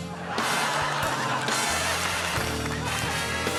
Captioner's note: laughter